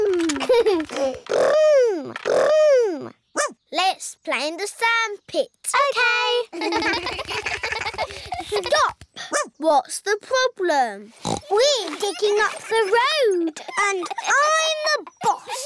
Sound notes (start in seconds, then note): 3.4 barks; 8.2 barks; 11.2 oinks